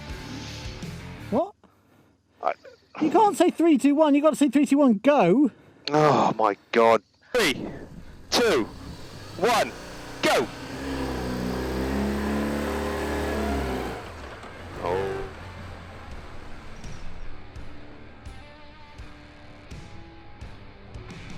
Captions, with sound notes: - What? - You can't say three, two, one, you gotta say three, two, one go. - Oh my God! - Three, two, one, go. (bike engine revving) (soft music)